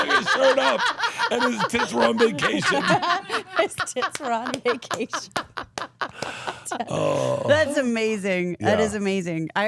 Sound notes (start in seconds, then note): 0.6 laughing; 6.1 Steph laughing